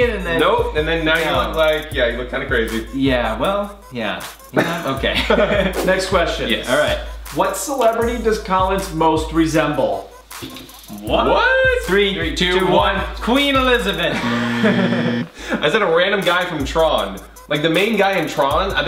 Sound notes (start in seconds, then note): 4.5 brothers laugh loudly; 14.1 Collins laughs; 14.1 buzzing loudly